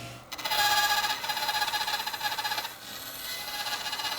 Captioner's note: bandsaw buzzing